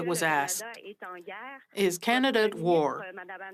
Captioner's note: speaking French